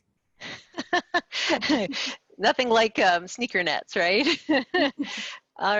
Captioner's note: laughs